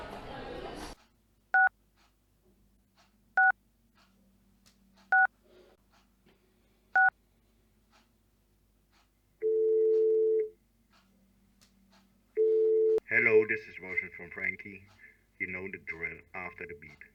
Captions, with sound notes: [Dialing noise] [Phone ringing.] Hello this is the voice mail from Frankie. You know the drill. After the beep...